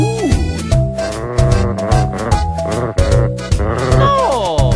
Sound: imitate dog growls

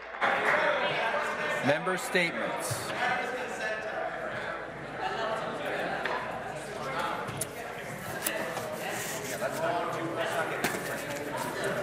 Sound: cheers

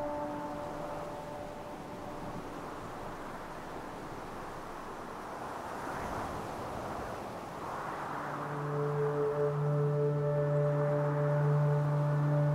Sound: wind howling

